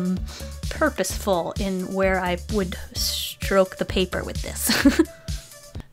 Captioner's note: giggle